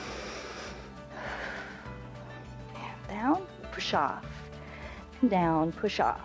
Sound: inhales and exhales

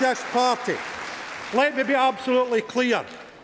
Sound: cheering & Applause

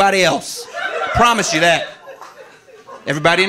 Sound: audience laughing

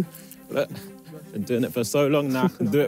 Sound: chuckles

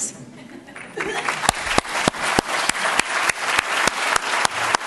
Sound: audience clapping

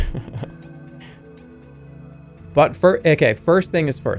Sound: laughs

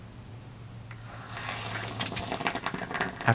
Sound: evil noises and crackling

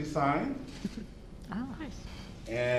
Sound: laughter

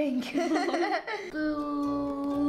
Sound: both giggling

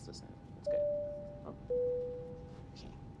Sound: bell chimes

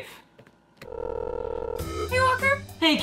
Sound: phone rings

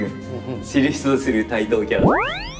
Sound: laughs

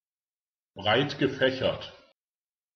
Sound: fast Pronunciation

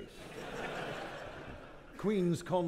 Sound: audience laughing

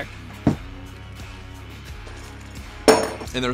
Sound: thud; metal clangs

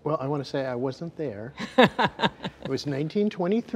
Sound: laughing

